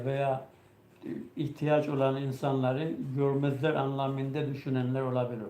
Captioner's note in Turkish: boğazını temizler